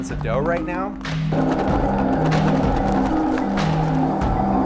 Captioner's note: mixer rumbling